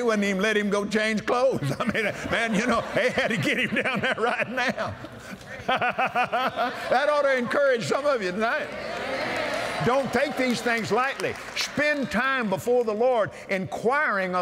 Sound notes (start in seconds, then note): 6.7 laughs; 8.4 audience Agrees